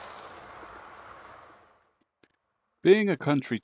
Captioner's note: sounds fade again